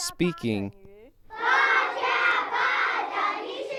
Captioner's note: speaking chinese